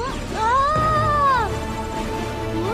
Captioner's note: screams